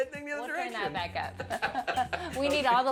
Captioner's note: both laugh